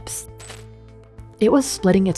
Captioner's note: static crackling